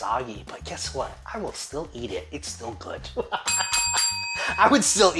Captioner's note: laughs